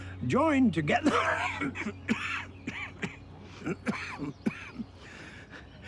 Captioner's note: reverend starts hacking and wheezing